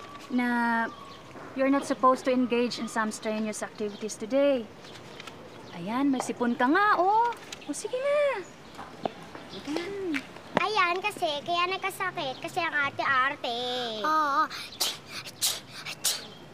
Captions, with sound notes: that you're not supposed to engage in some strenuous activities today. Right, you've got a cold. Go on now. -Let's go. -[Sister hums] Serves her right, she got sick because she's so finicky. Aww! [mimics sneezing]